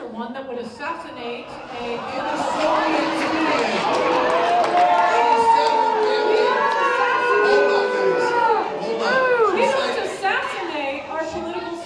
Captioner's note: booing